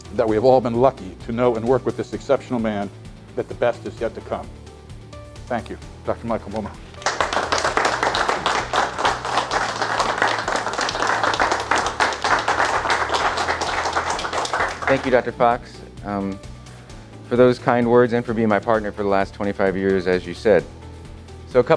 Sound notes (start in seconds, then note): 6.6 audience clapping